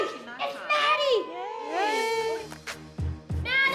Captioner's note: gentle cheering